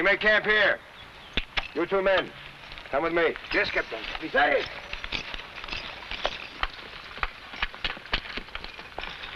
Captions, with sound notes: - We made camp here. You two men, come with me. - Yes, Captain. (shouts)